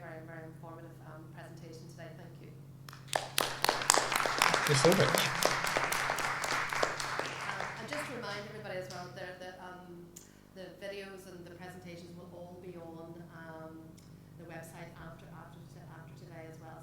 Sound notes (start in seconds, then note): 2.9 applause